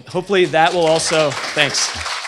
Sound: applause

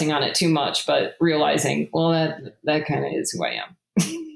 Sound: laughs

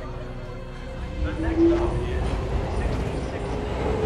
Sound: announcer over PA

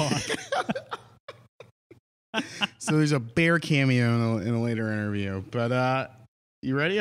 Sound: laughs

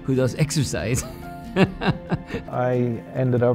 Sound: laughter

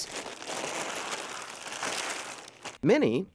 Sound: paper crumpling

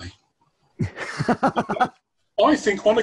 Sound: laughter

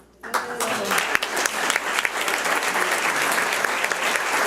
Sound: audience applauds

